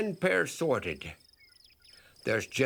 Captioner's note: birds chirping